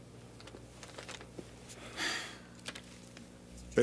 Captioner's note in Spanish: Dave suspira